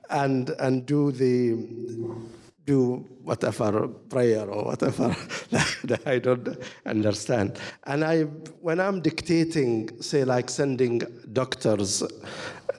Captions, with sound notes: and do the whatever prayer or whatever (chuckles) that I don't understand. When I'm dictating, say like sending doctor's